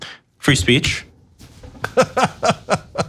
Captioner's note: laugh